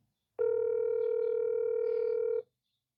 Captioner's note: phone rings erotically